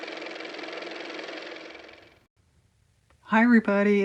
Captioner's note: car motor